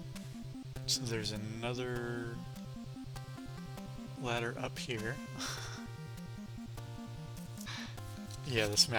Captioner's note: laughs